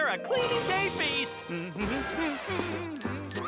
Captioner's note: hums the clean-up song